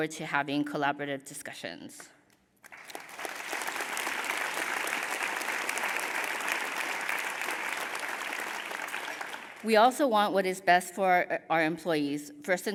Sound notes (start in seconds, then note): 2.6 applause